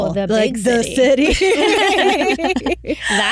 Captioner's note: all Laughing